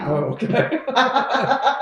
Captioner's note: laughter